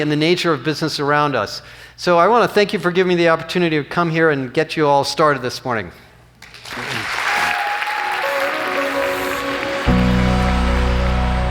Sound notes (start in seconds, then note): 6.4 applause; 7.5 uplifting music